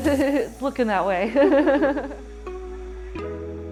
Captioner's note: laughing; gentle music